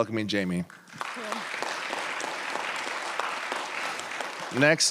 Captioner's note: applause